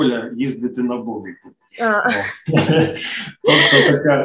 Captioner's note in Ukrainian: Сміх